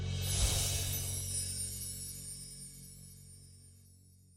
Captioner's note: chimes chiming